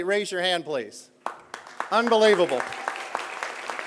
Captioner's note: applause